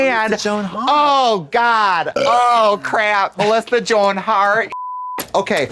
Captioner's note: beep